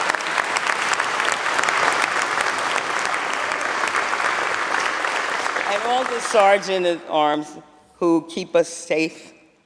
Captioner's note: applause